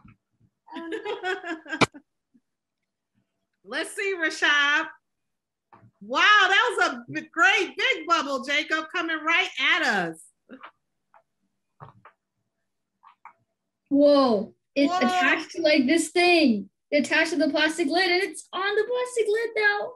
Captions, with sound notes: (Laughs) Lets see Rashaad wow that was a good bubble Jacob, coming right at us. - Whoa. It attached to the plastic lid and it's on the plastic lid